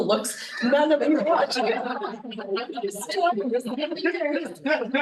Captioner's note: students laughing